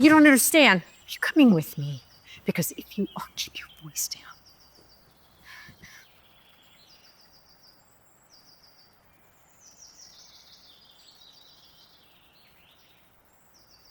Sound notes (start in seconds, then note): 7.0 birds chirping